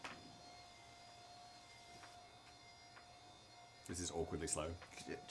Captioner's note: machine whirring